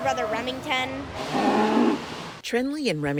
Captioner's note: cow moos